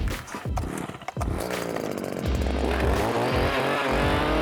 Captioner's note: engine growls